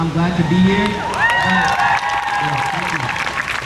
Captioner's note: crowd cheers